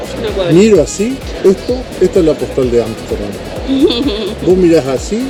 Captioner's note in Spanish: risas